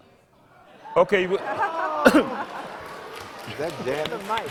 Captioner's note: audience applause